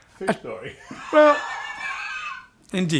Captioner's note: laughs